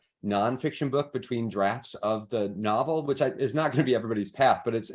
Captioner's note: chuckles